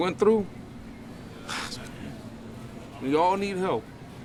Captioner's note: sighs